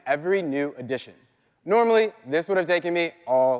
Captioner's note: none